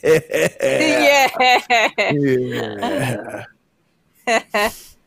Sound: laughing

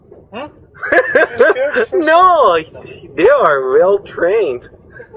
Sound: epic laugh

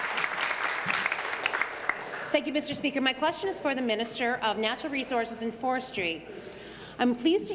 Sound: applause

